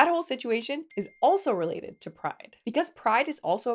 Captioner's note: bell ringing